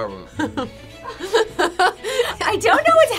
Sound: both laugh

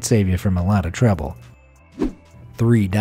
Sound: air whooshing

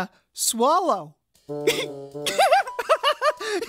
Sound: giggling

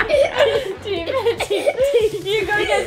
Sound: laughing

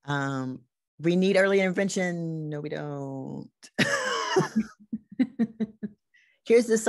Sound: laughs

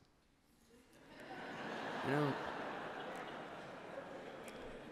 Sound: laughter

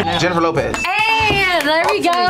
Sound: dinging sound

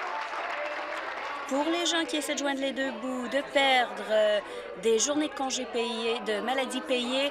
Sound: applause

